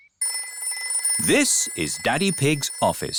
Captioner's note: phone rings